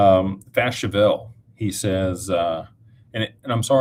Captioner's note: none